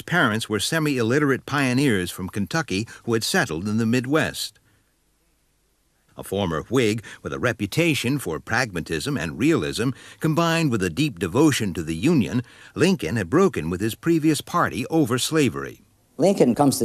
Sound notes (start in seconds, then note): none